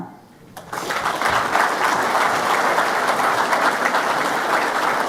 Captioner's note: audience clapping